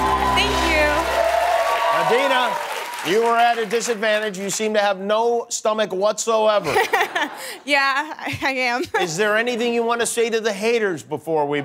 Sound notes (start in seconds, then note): 6.3 laughs